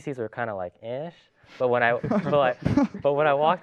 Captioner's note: laughs